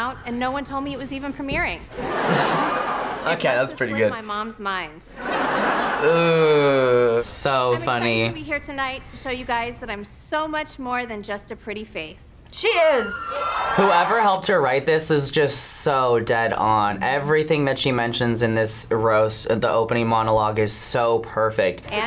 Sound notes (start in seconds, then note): 2.0 laughs